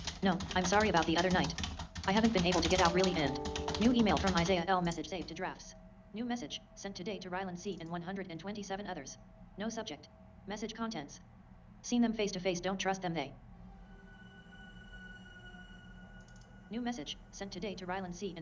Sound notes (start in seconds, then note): 3.0 Outlook notification